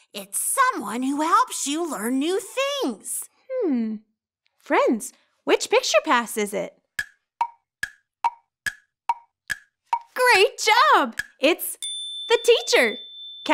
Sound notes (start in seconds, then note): 6.9 clock ticks; 11.8 bell rings